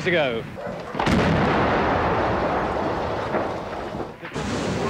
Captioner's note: explosion